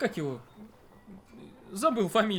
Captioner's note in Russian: вздох